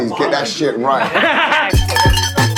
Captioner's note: laughing